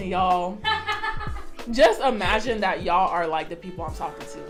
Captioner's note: off screen laughter